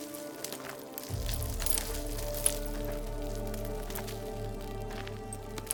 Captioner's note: footsteps crunching